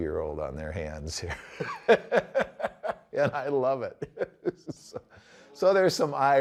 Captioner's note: hearty laugh